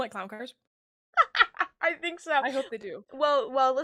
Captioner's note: laughs